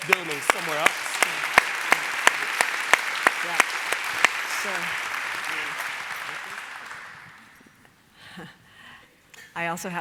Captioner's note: applause